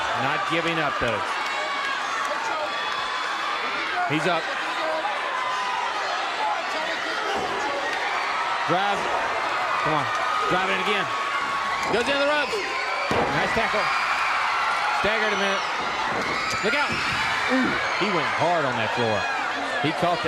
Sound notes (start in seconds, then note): 2.4 crowd cheering; 6.8 crowd chatter